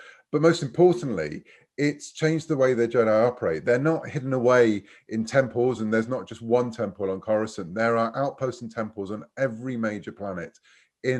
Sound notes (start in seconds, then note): none